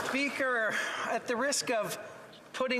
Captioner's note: some Applause